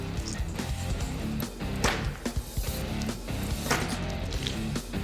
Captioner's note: chopping